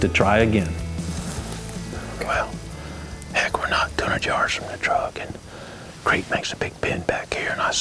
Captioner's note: whispering